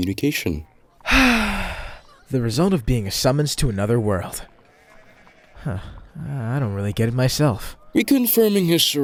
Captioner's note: sighs